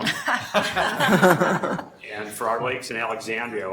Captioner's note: laughing